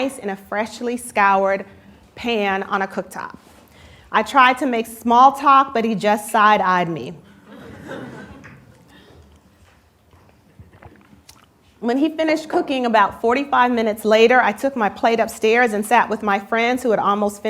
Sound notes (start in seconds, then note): 7.4 laughter